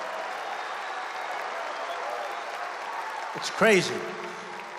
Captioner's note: applause